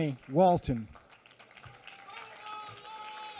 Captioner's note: applause